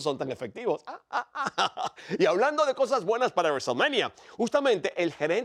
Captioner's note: laugh